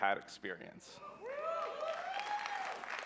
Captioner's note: applause